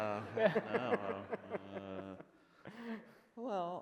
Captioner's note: laughs